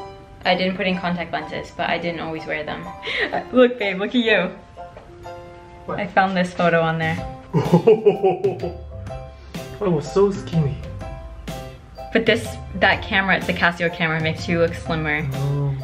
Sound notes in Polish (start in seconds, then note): 7.5 się śmieje